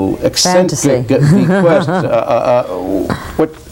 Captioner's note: laughs; Theodore stammers